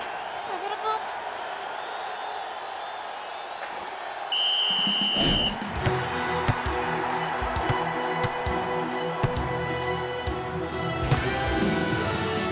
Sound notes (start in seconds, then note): 4.0 triumphant music plays; 4.2 whistles blows